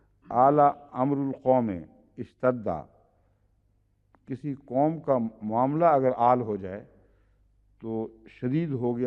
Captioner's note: Arabic